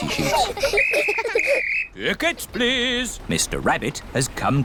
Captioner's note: blows whistle